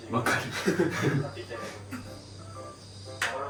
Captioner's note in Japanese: 笑い